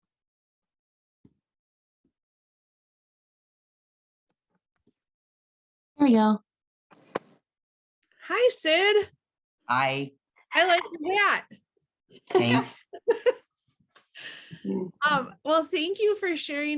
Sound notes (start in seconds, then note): 12.3 laughing